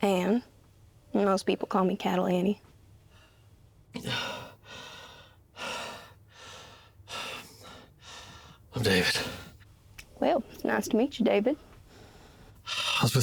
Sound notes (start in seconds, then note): 4.1 Chris panting